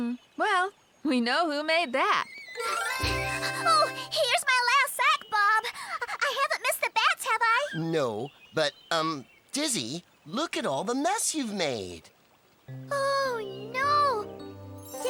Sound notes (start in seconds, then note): 3.3 panting